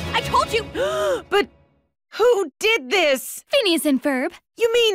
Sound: gasps

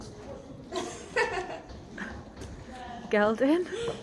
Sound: laughter

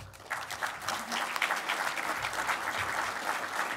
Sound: applause

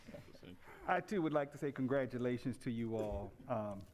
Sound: laughter

